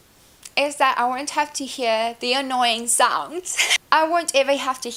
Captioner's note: laughs